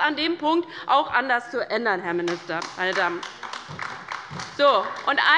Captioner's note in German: Beifall bei der LINKEN